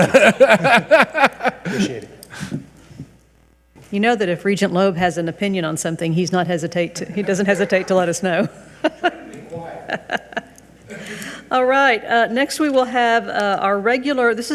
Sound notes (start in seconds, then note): 0.0 audience laughs; 7.1 people chuckle